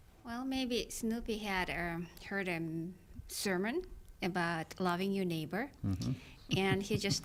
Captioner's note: laughs